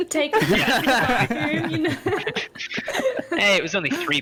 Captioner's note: hearty laughter